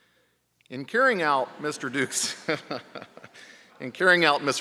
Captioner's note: laughing